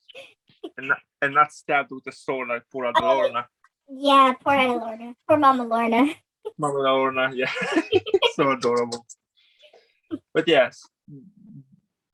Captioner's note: laughs